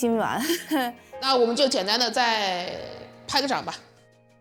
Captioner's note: coughs